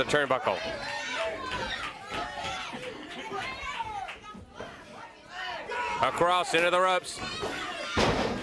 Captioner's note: crowd cheering